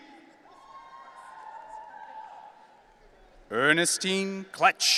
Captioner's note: audience cheering